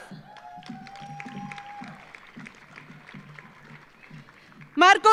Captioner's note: audience cheering; audience applauding